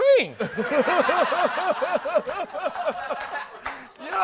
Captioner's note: laughter